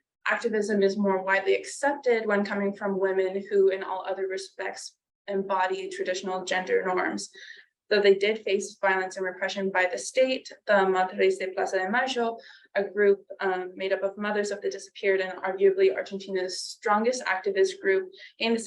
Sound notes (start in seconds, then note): 11.7 speaking foreign language